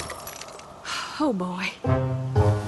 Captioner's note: smash; sigh